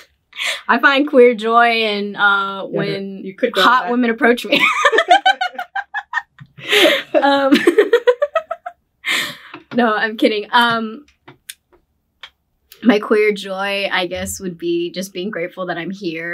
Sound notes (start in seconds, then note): 4.5 both laughing